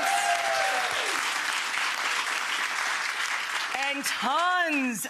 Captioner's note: audience clapping and cheering